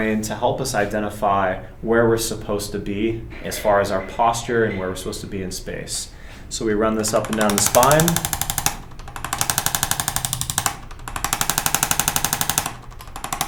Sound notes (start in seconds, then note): 7.0 instrument clicking